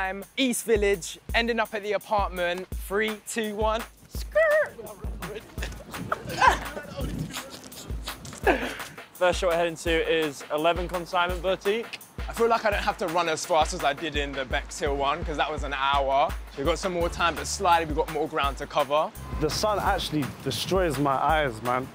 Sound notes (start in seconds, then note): 5.2 laughing